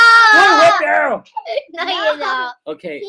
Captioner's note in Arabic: يضحك